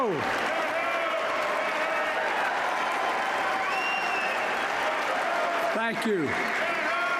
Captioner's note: applause